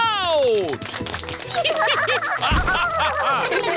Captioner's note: applause; all giggling